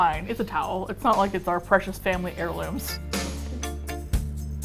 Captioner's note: laughs; groovy Music